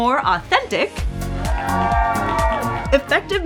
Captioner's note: cheering